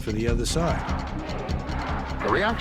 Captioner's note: protestors chanting